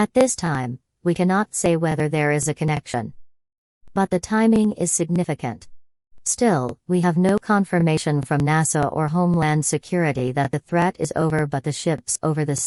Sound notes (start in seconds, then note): none